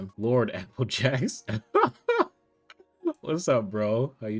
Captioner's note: laughs